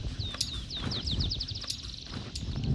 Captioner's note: bird Chirp